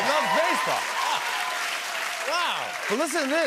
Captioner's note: cheers and applause